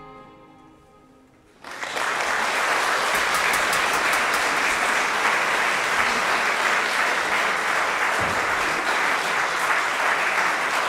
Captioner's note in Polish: oklaski